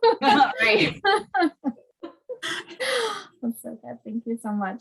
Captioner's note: laughing